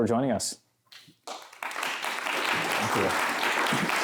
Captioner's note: applause